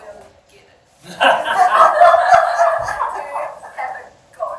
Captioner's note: audience laughing